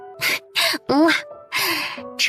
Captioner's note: mwah